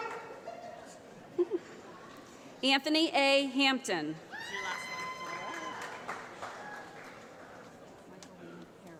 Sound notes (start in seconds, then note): 4.7 applause